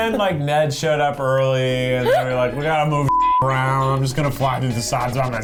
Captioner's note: beep